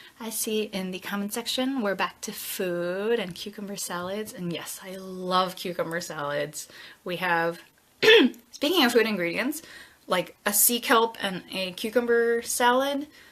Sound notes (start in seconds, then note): 8.0 clears throat